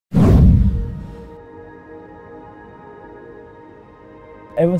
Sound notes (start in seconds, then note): 0.1 whoosh sound